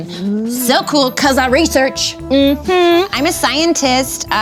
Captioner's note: agrees sassily